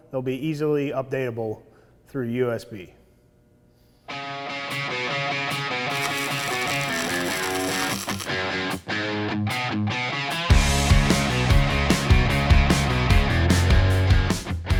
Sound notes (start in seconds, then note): 4.0 upbeat rock music; 5.6 electric arc crackling; 8.2 upbeat rock music